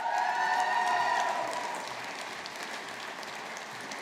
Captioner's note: audience applauding